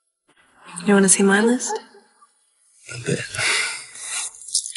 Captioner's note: laughs